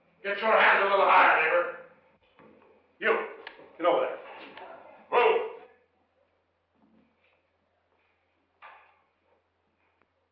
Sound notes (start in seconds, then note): 6.4 silence